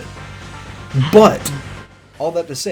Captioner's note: laughing; still laughing